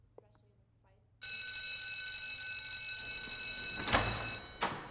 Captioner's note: bell rings